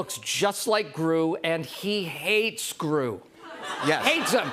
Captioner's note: laughter